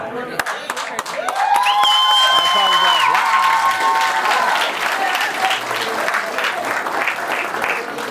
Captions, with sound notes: (upbeat hip-hop music) - Oh, wow. (crowd clapping) And the crowd goes wild.